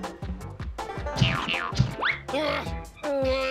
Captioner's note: boing boing; straining